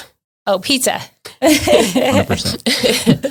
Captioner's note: laughs